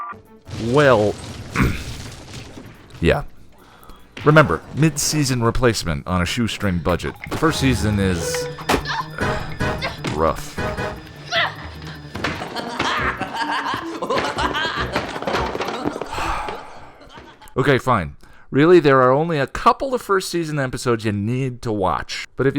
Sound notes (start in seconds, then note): 1.6 cough; 10.4 clown laughing; 16.0 sigh